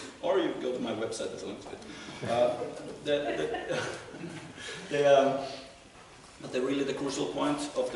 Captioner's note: laughter